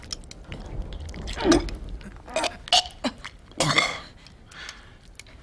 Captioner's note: Jesse gagging